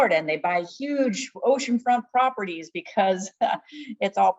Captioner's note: laughs